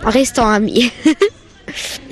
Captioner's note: laughs